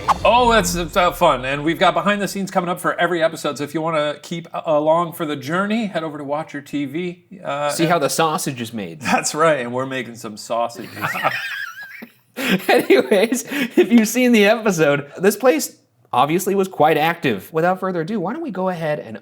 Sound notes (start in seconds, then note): 10.8 both laughing